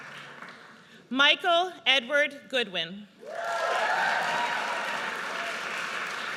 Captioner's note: audience cheers